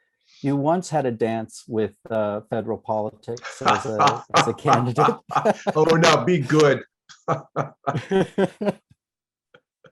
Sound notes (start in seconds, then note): 7.2 laughter